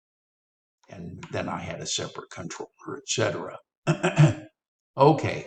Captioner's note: coughs